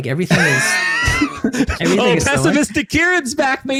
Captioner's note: laughing